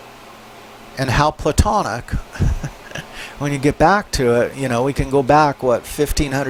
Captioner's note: laughs